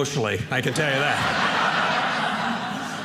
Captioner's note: audience laughing